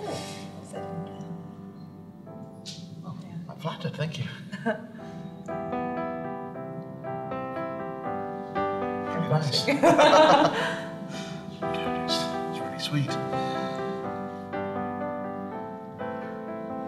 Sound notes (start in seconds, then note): 5.4 gentle piano music; 9.6 both laugh; 13.7 gentle piano music